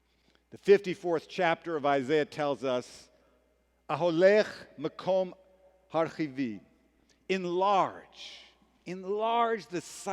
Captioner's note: hebrew